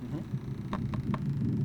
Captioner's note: tap tap tap